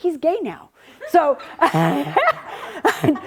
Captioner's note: laughs